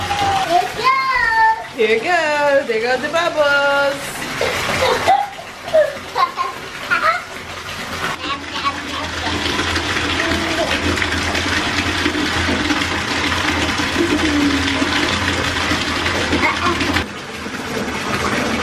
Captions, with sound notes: - Here it goes! - Here it goes, there goes the bubbles. (laughter) (baby talk)